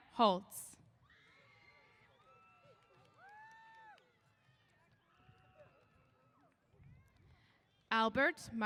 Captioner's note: cheers